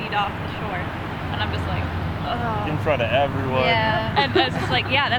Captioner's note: groan